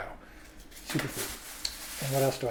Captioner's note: bag crinkles